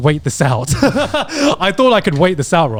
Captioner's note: laughs quickly